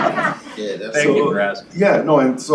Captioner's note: laughter